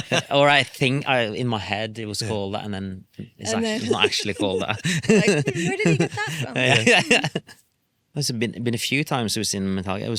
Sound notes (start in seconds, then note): 0.0 laughs; 3.6 laughs